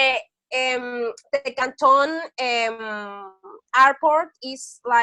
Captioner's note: speaking Chinese